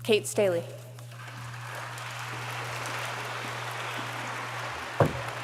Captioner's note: audience applauds